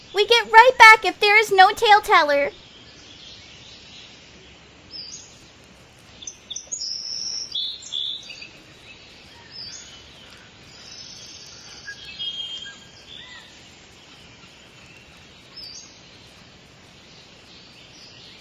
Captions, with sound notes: We get right back if there is no Taleteller. (birds cawing and chirping) (insects chattering)